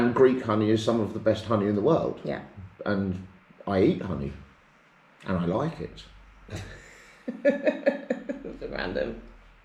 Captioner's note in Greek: Γέλια